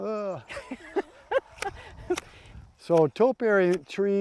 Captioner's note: laughs